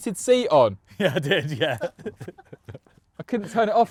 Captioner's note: laughs